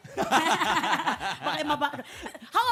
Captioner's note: laughter